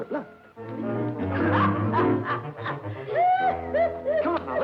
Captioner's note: Minnie laughing